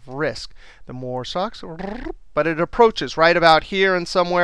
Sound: trilling

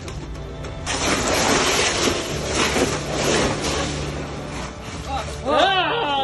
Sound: background music; sound of sea otter moving around a pile of ice cubes

